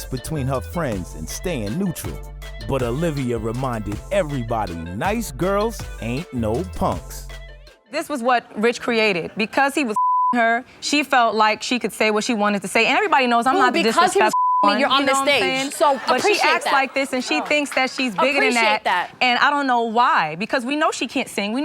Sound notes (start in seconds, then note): 9.9 beep; 14.3 beep